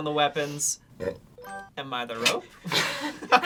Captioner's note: burps